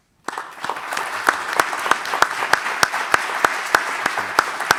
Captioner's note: applause